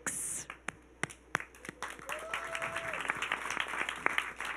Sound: audience clapping

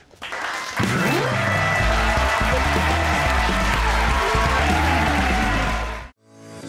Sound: applause / Music

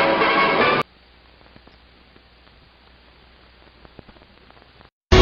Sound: old film static

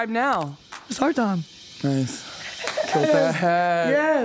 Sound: laughs

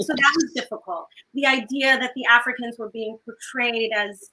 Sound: none

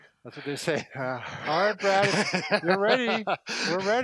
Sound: laughs

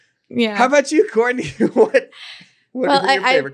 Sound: laughs

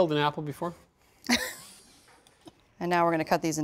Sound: laughs

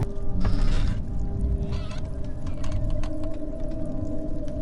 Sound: door creaking

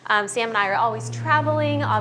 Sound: plane engine roaring

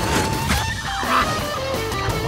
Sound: grunting

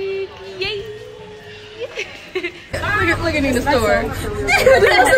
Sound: laughter

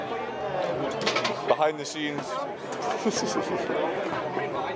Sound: laughs

